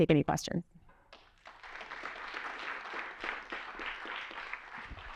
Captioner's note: applause